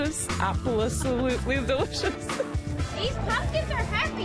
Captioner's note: laughs